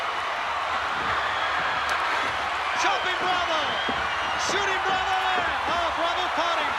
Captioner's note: applause